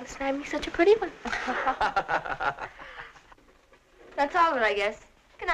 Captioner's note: both laughing